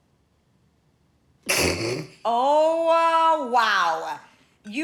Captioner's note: snickers